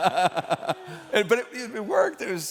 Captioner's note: laughter